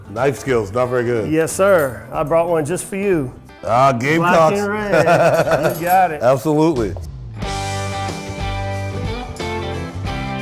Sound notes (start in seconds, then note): 4.2 men laughing; 7.6 upbeat music